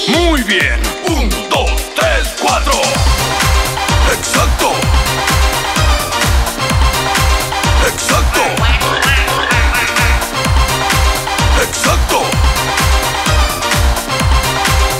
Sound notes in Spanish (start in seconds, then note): 2.8 Música alegre; 8.5 Sonido pato, pato, gallo, cerdo, pato; 10.3 Música alegre